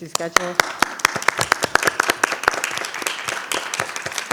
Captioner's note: audience clapping